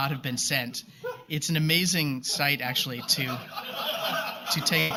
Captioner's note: laughter